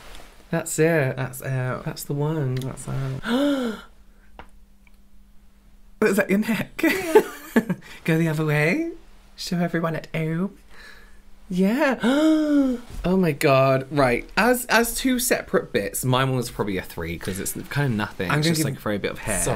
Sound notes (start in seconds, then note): 4.0 neck Breaking